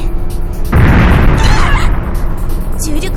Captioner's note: panicked cries